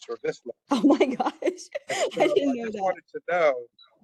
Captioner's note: laugh